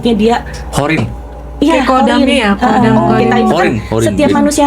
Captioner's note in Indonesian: tertawa